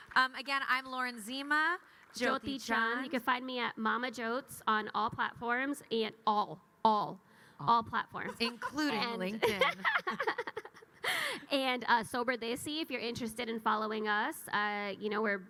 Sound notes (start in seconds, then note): 8.2 laughs